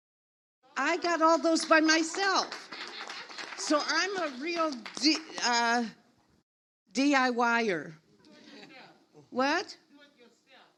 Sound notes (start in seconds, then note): 2.5 audience applauds